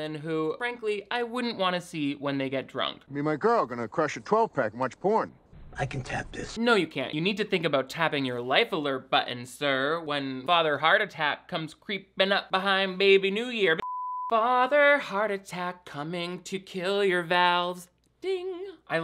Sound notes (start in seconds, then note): 13.8 beep